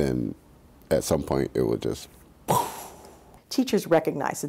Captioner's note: blows sharply